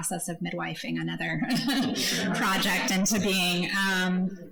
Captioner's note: laughs